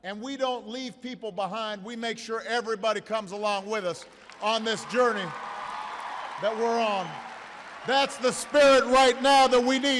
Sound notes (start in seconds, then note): 7.0 applause